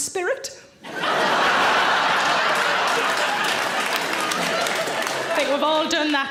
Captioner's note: audience laughing and clapping